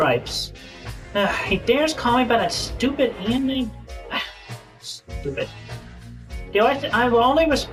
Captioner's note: sigh